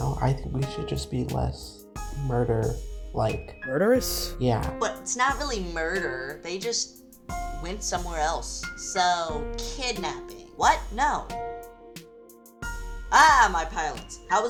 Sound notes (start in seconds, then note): none